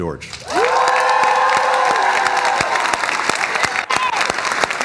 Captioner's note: cheers and applause